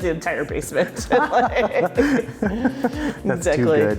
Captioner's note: both laughing